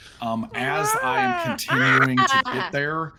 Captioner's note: Ned screams